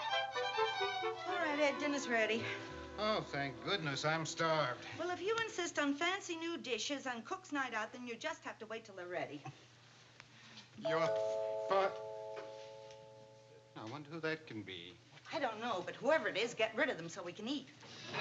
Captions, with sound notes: All right, Ed, dinner's ready. Oh, thank goodness. I'm starved. Well, if you insist on fancy new dishes on cook's night out then you'll just have to wait till they're ready. Your-- [DOORBELL] Now, I wonder who that can be? I don't know, but whoever it is, get rid of them so we can eat.